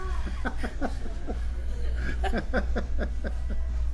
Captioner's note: laughs